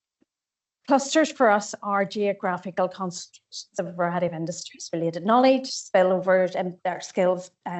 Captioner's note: audio distorts 13.36